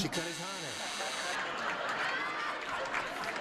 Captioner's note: buzzing; audience laughing